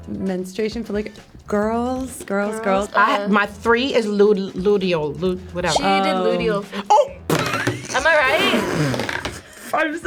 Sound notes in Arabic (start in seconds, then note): 6.6 يضحك